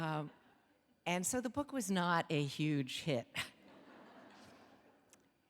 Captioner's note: laughs